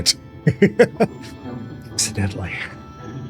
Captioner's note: laughs